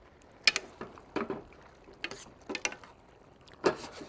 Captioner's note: metal clattering